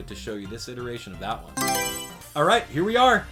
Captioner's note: Mario Selection Sound